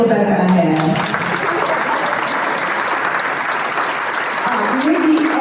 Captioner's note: applause